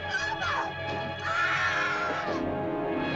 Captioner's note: suspenseful music; woman screams; suspenseful music